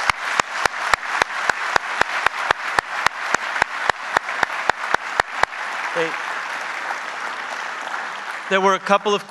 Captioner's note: applause